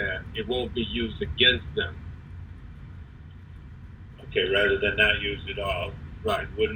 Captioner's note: away from microphone